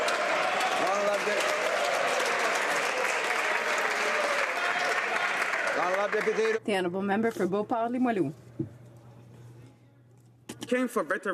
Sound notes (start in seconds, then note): 2.0 some Applause